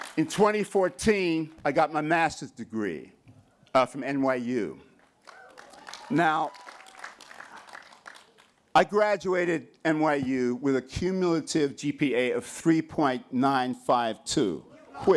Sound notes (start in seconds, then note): 5.0 applause